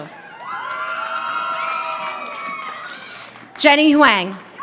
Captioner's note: audience applauding